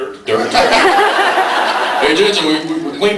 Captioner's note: laughs